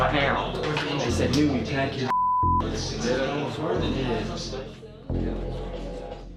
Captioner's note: beep